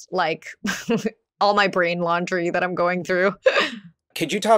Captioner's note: laughs